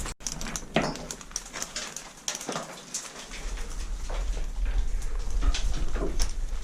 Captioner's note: metallic scraping; thumping